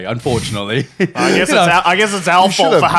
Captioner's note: chuckles